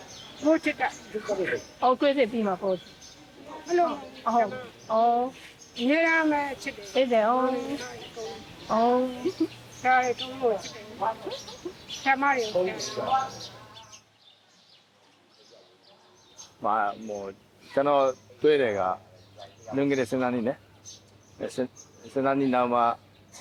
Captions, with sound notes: They continue to love and care for me after the surgery, too. [birds chirping] I like Dr. Bala very much. I met you 12 years ago. And now you can walk.